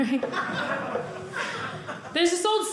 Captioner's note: audience laughing